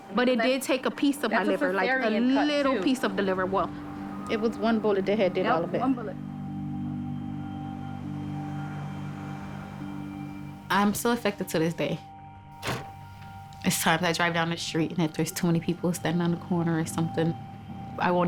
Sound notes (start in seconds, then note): 7.0 somber music; 12.6 trunk thuds